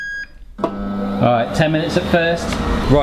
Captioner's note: fryer revving